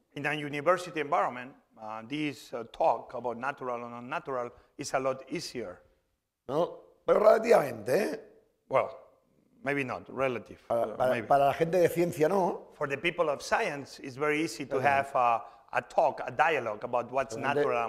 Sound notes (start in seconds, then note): 7.6 speaking spanish; 11.7 speaking spanish